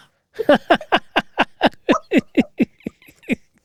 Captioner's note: laughs